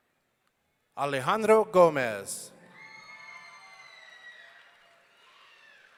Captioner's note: audience cheering